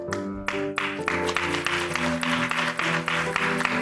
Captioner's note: applause